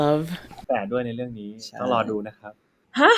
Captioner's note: in Thai